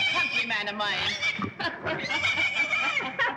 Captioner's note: laughs